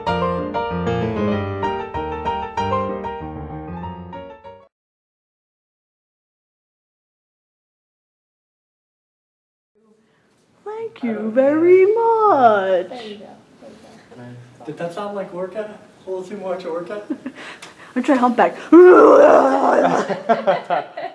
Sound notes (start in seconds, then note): 2.0 music fades; 17.0 laughter